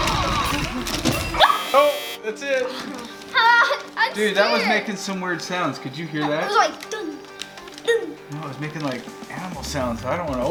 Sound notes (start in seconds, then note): 1.4 present buzzes